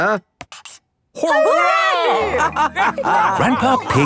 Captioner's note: all laughing